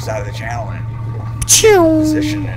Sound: boat shoots off

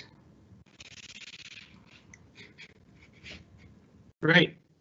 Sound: mic scraping

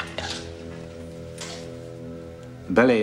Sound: slow dramatic music; footsteps shuffle

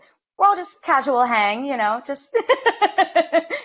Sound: laughs

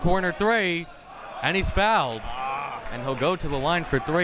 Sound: whistle tweeting

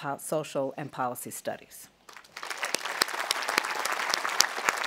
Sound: audience applauding

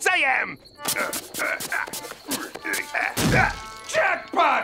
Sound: digging

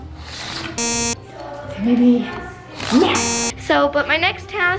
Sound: beeping

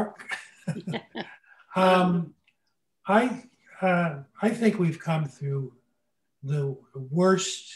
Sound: laughs

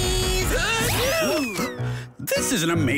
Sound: book sneezes; Duo gasps

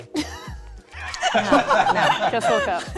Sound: chuckles

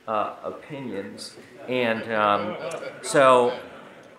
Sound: audience laughing

